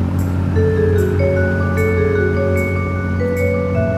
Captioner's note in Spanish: Ruido de motor